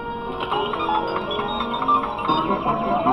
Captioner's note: beeping